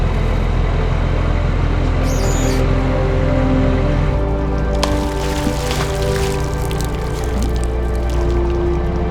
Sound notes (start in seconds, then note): 4.0 water splashing